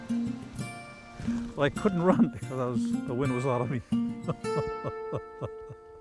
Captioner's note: chuckles